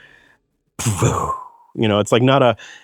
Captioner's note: imitates audio whooshing